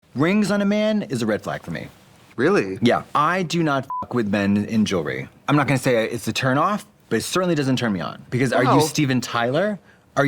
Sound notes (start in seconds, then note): 3.9 beep